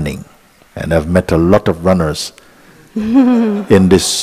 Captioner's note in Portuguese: risos